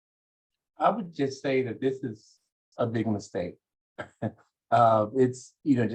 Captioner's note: chuckles